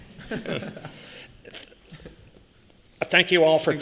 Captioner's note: laughter